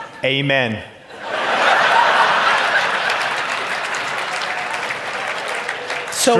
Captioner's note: audience laugh and clap